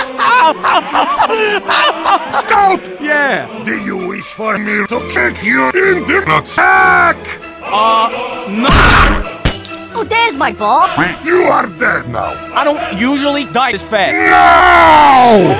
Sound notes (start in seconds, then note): 8.7 punch